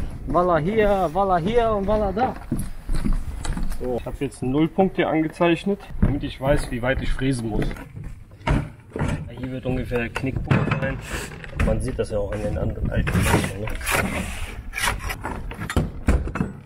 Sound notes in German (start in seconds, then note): 7.8 klappern; 13.8 kratzen; 14.9 klappern